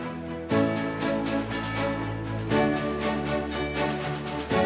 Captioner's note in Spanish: Aplausos